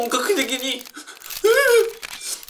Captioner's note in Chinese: 嗚 嗚